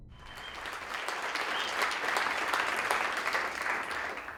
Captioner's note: audience applauds